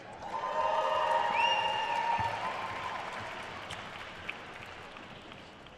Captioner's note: attendees cheering and applauding